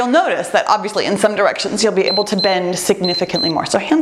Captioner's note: timer beeps